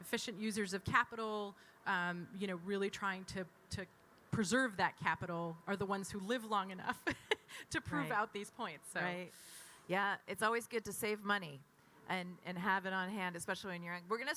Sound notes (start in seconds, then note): 7.3 laughs